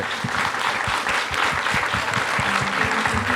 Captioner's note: applause; closing music; applause